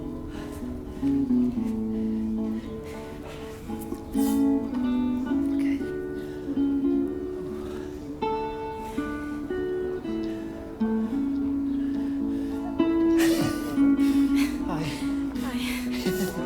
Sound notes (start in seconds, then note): 12.8 chuckles